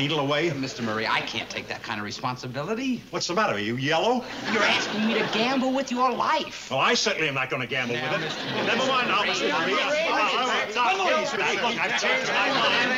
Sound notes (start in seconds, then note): 8.0 everyone shouts